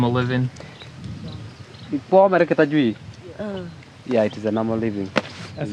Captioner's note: speaking in foreign language